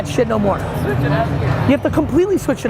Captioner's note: faintly speaking